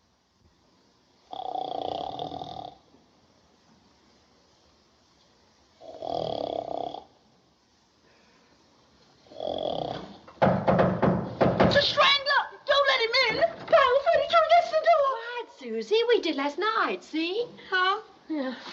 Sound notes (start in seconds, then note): 1.2 snoring; 10.2 knocking